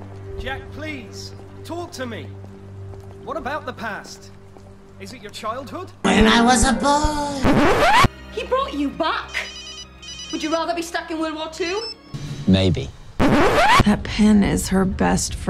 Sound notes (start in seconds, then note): 7.4 record scratch; 13.2 record scratch